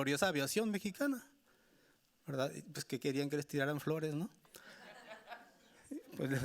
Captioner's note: speaking Spanish continues; audience laughing